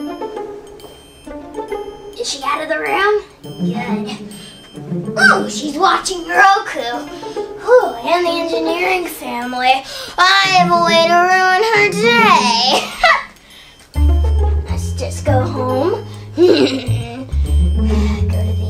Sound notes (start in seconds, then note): 0.2 sneaky music; 12.7 laughs; 16.4 laughs evilly